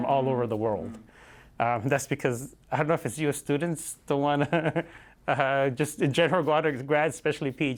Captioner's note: laughter